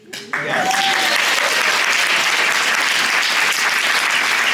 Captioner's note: cheering, applause